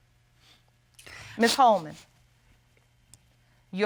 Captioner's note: sniffles